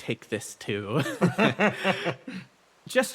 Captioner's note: laughs